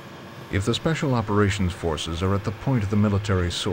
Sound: voiceover

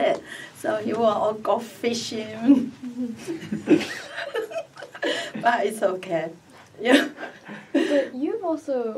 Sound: all laugh

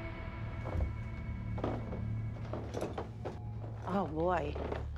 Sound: stairs creaking

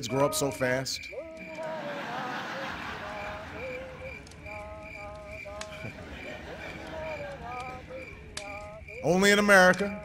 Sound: laughter

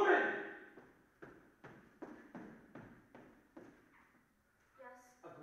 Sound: footsteps approaching

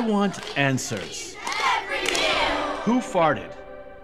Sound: chanting

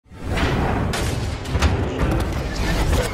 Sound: crashing

